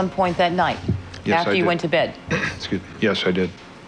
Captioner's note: clears throat